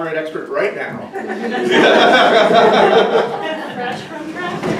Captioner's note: audience laughing